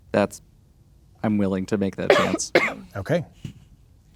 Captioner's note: coughing